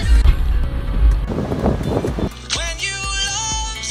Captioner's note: pop music; wind blowing